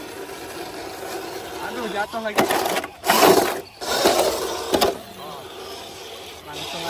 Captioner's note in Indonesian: Body crunch